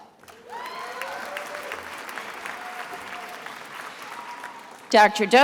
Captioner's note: attendees applauding